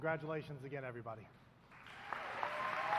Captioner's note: applause